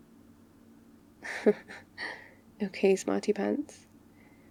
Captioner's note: laughs